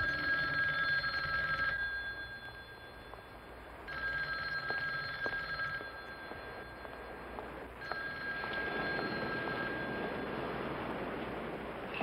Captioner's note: phone ringing